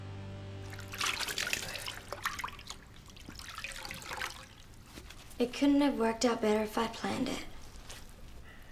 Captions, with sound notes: (water splashing) - It couldn't have worked out better if I planned it.